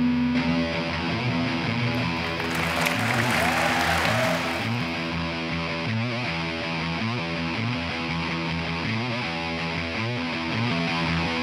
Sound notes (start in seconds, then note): 0.1 energetic rock music; 1.9 attendees applauding